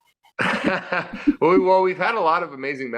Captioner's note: both laughing